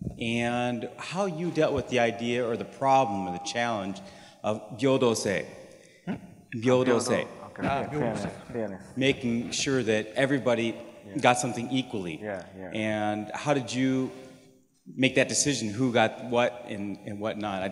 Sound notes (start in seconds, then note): 5.4 speaking japanese